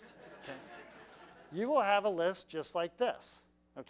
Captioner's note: laugh